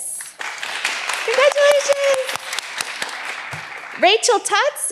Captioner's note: all applauding